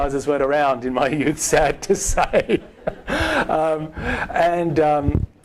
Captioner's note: laughing